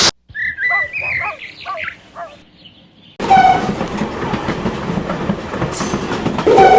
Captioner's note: birds tweeting; dog barking